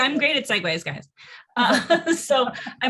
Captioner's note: laughing